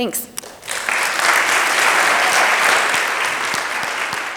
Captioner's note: audience applauds